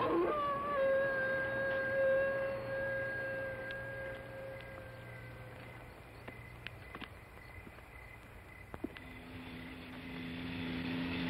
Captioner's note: howling